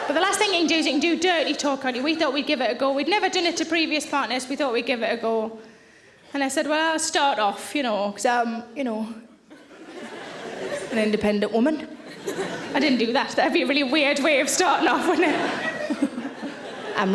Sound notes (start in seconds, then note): 9.5 audience laughing; 14.9 laughing